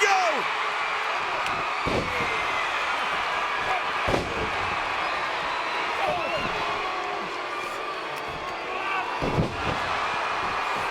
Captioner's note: applause